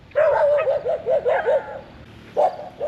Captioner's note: woof woof